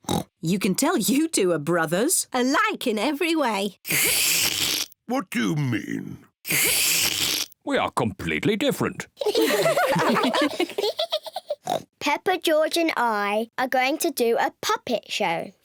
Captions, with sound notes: (OINKS) You can tell you two are brothers! (SLURPS) Alike in every way. (SLURPS) What do you mean? (SLURPS) We are completely different. (ALL GIGGLE) (OINKS) Peppa, George and I are going to do a puppet show.